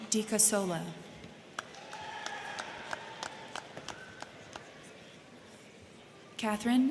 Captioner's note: crowd clapping; crowd cheering